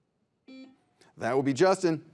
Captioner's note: buzzer beeps